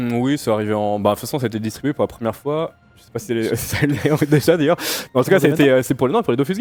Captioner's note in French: rires